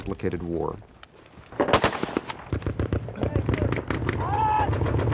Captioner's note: gunfire; yelling